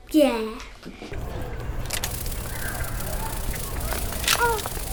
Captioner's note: resort pool ambience